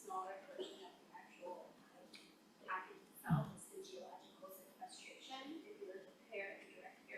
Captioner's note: faintly speaking